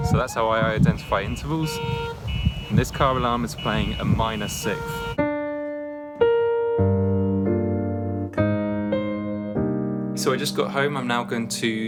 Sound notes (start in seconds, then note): 2.4 car alarm beeping; 5.6 gentle keyboard music